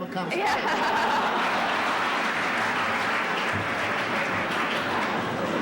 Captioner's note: laughter